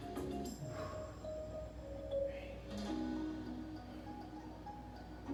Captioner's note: upbeat music; breaths; breaths; upbeat music